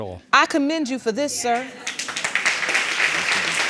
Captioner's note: audience applauding